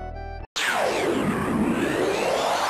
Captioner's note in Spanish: siren